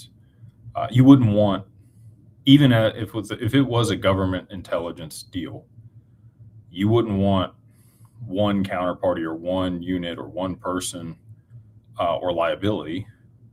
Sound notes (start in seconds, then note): none